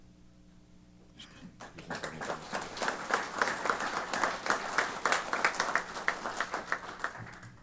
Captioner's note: applause